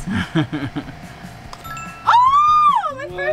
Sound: ding

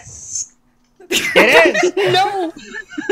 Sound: laughter

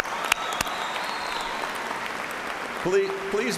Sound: cheers and applause

